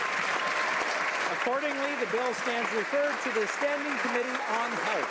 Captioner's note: cheers and applause